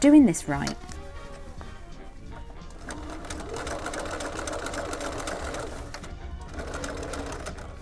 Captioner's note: sewing